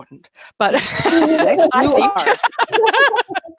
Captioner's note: laughing